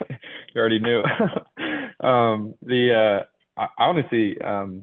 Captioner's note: laughs